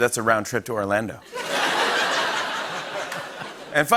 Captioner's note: laughter